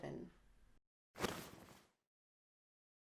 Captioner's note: rustle of curtains flung open